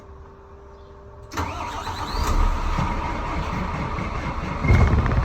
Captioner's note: this sound is actually the Truck Starting up